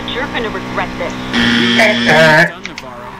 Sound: wrong answer buzzer

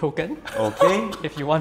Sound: laughs

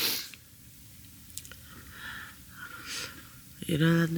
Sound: sniff

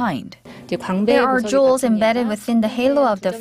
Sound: korean

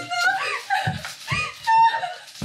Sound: girl crying

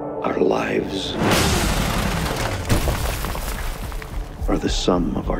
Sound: gunshots

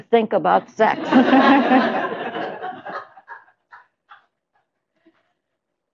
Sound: laughter

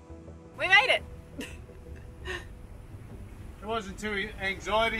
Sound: laughs

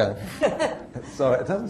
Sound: laughter erupts

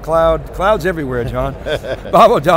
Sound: laughing

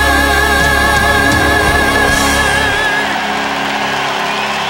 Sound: cheers and applause

